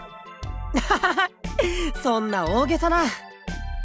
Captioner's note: laugh